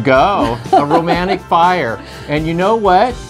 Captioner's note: laughs